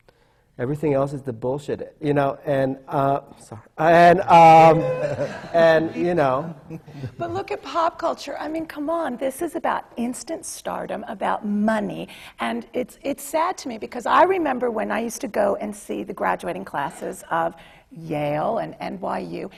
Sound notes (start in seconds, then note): 6.7 laughter